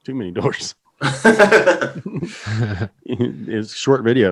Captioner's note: laughing